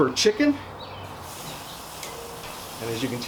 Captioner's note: chicken sizzling